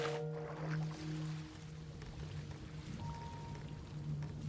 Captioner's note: waves lapping